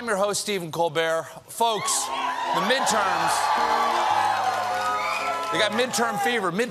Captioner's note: cheers